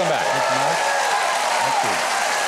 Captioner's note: applause